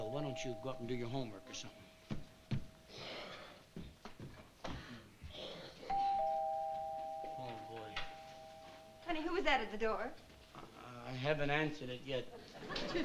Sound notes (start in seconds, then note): 5.9 doorbell ringing